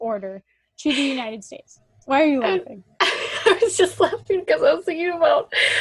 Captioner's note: laughs